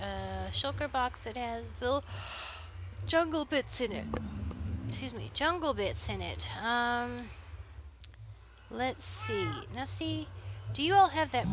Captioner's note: yawn